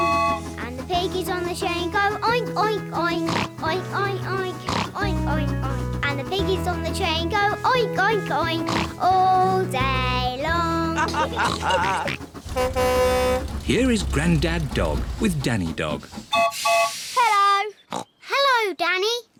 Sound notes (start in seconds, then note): 10.9 all chuckle; 11.1 horn blares; 16.3 toots whistle